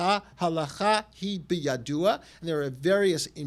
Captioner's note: hebrew